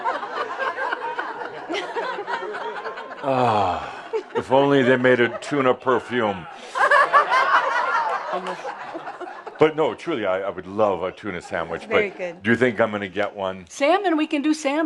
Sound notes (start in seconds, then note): 0.1 laughter, as Adamus sniffs her; 6.5 lots of laughter